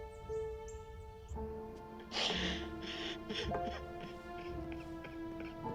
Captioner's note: sobbing